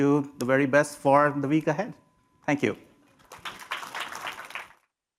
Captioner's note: applause